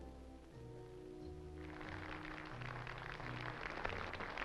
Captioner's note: crowd applauds